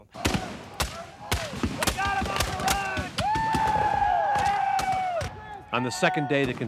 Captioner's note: gunfire; more gunfire